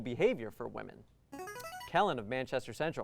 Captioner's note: buzzer